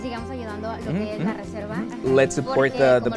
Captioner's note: speaks foreign language